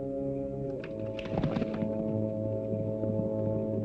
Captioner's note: horse galloping